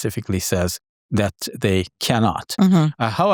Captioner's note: hums